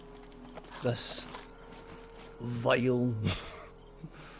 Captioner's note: laughs